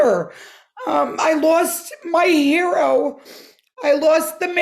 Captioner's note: sobbing; sobbing